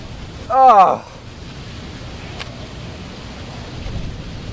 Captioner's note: Jimmy groaning